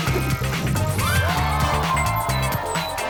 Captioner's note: crowd cheering